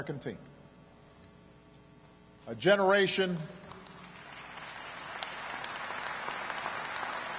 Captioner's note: applause